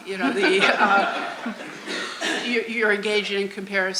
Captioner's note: audience laughing; laughs